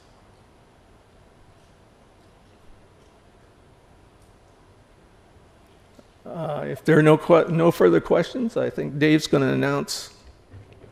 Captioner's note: silence